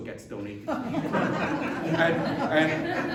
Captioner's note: laughter